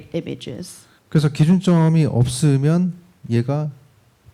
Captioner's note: speaking korean